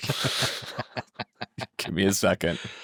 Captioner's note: laughing